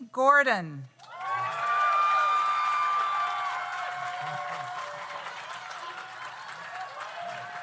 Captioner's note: audience applauds; audience cheers